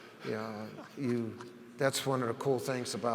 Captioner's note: laughs